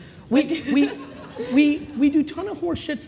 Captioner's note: laughing